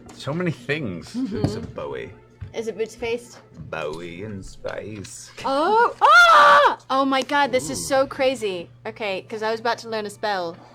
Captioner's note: yells